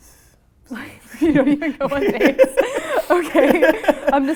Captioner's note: laughing